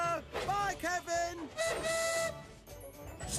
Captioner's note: toot-Toot!